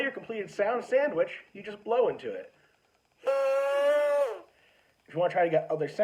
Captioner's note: buzzing sound